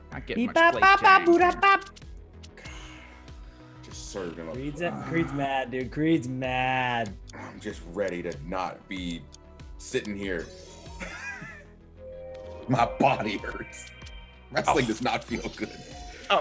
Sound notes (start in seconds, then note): 11.0 laugh